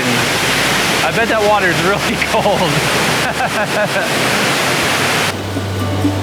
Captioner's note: laughing